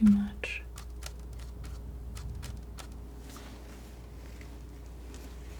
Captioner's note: scratching